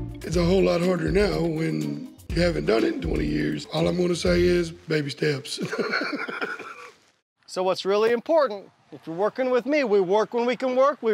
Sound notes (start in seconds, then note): 5.5 chuckles